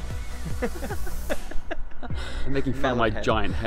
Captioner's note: laughter